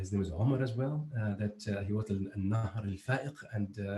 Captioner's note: speaking foreign